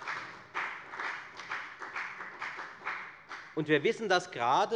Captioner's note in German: Beifall bei der FDP